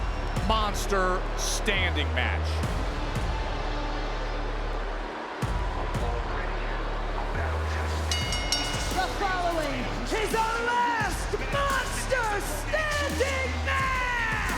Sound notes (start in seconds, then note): 8.1 bell rings